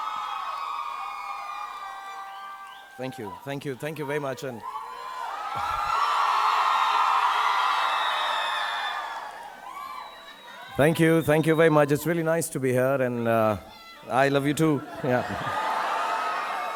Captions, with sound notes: Thank you, thank you, thank you very much and. (audience cheering) Thank you, thank you very much, it's really nice to be here and-- - I love you! - I love you too.